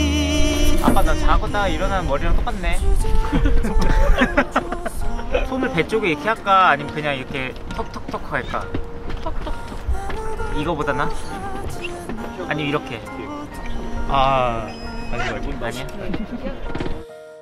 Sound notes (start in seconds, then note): 3.2 laughing